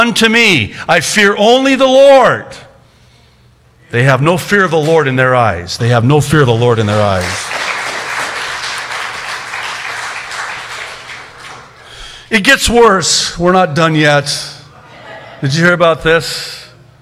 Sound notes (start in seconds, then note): 10.6 applause